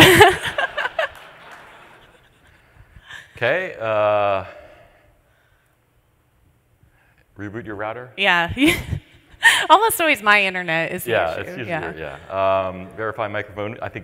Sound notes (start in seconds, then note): 0.0 laughter; 8.6 laughs